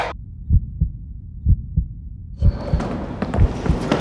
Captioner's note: heart beating